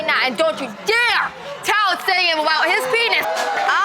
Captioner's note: audience cheering